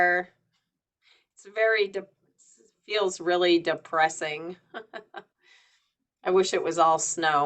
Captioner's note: chuckles